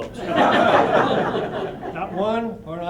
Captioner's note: laughter